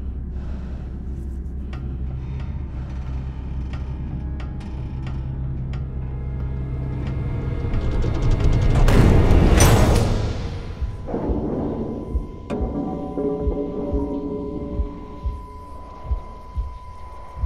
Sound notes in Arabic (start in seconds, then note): 9.6 صوت المعدن; 11.6 رنين عالي النبرة; 12.2 نبضات القلب